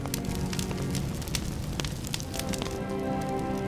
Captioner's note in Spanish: fuego crepitante